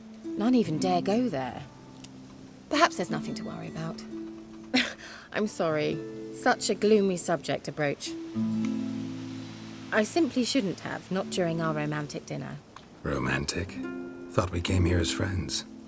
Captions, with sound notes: ...NONE EVEN DARE GO THERE. PERHAPS THERE'S NOTHING TO WORRY ABOUT. [laugh] I'M SORRY. SUCH A GLOOMY SUBJECT TO BROACH. I SIMPLY SHOULDN'T HAVE, NOT DURING OUR ROMANTIC DINNER. ROMANTIC? THOUGHT WE CAME HERE AS FRIENDS.